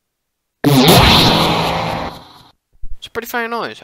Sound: loud shooting noise

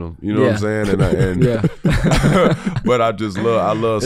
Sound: all laughing

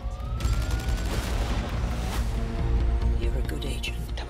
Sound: sirens wail

